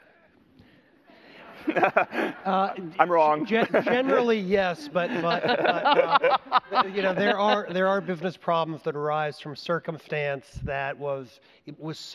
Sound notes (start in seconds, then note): 1.5 audience laughter; 1.5 laughs; 4.7 laughter